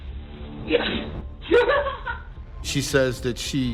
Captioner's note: laughs